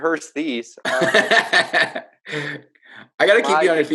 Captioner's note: laughing